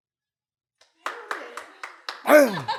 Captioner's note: cheering, laughing